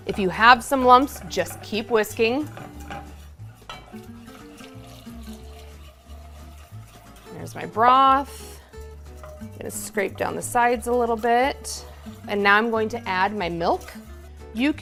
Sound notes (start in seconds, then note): 3.2 jazz music; 3.2 pan scraping